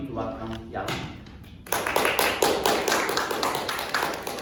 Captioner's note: applause